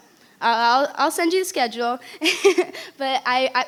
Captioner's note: laughing